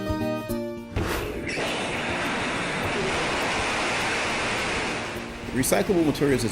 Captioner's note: rocket Firing Sound